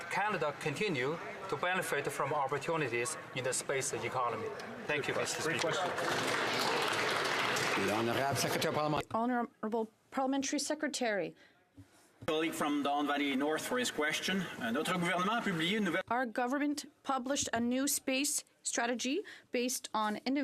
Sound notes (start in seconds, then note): 9.5 some Applause